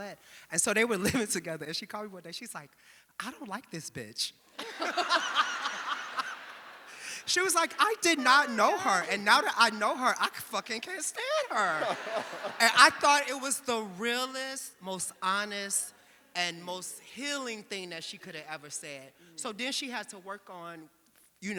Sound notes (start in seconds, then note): 4.5 audience laughing; 12.1 audience laughing